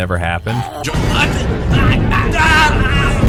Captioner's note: struggling